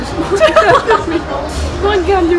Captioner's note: laughs